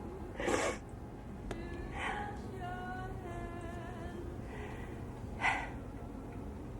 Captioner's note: gentle music; Pat crying